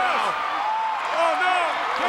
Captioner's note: audience cheers